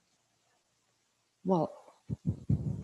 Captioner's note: laughs